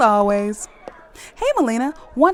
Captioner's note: sounds of walking down stairs